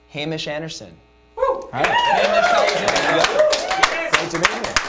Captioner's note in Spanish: aplausos